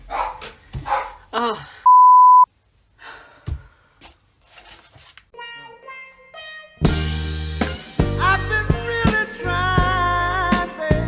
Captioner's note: dog barking